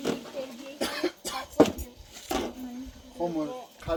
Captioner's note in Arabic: سعال